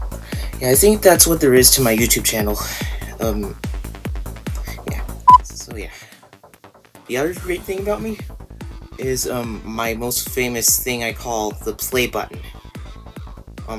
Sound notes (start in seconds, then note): 5.2 beep